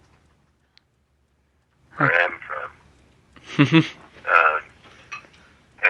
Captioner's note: laughter